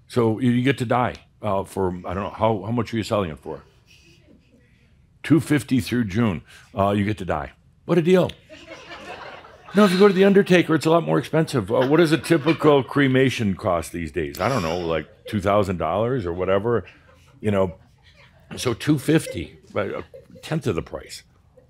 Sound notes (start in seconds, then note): 9.7 some chuckles and sighs; 14.4 sighs again